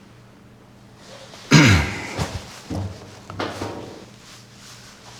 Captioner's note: Anton clears throat